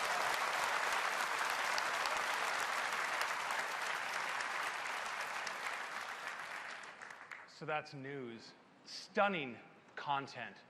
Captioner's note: cheers and applause